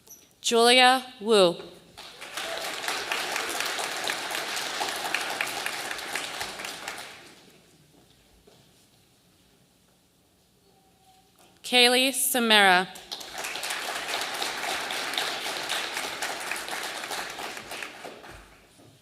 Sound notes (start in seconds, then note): 2.0 audience applauding; 13.0 audience applauding